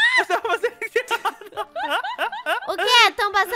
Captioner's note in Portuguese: risadas